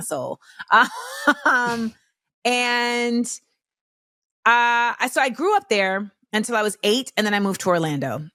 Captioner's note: laughs